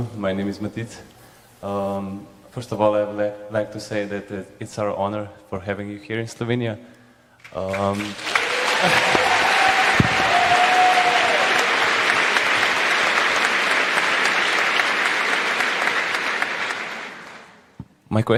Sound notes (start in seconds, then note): 10.7 cheering/Applause